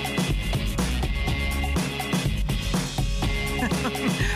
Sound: laughter

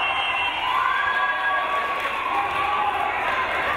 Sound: whistle blows

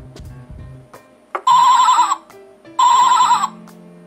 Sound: sheep Sound

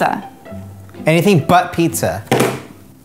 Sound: phone slams on table

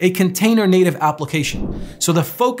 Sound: whooshing

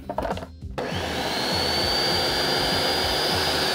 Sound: blender whirs

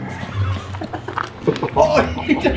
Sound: laughing

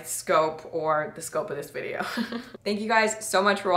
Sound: laughs

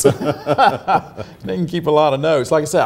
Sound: laughing; laughs

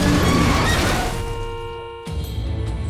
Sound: honking

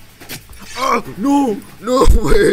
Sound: being stabbed in the side noise

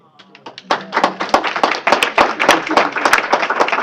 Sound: applause

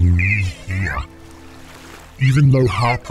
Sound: water flapping

